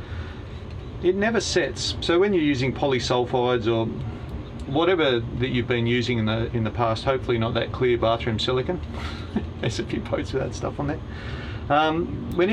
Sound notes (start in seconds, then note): 9.2 laughs